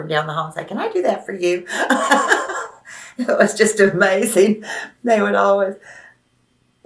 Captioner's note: laughs